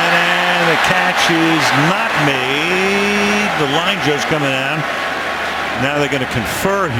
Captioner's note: cheers